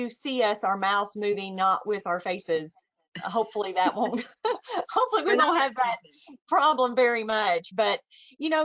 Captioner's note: chuckles